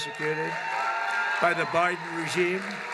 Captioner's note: applause